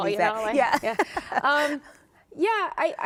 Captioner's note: laughter